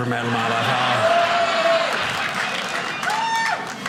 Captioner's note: audience laughing